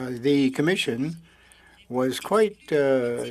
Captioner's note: speaking French